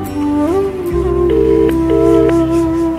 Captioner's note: Phone ringing